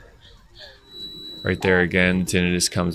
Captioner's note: high pitch ringing